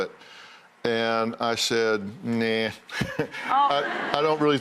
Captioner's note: laughs